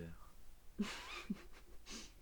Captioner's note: laugh